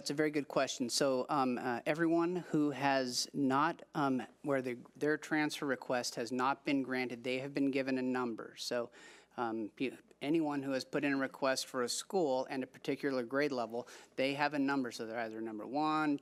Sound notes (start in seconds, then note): none